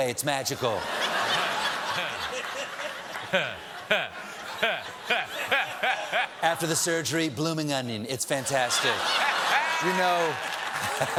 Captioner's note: laughter